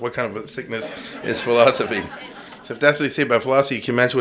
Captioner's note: laughter